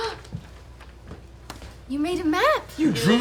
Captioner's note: gasps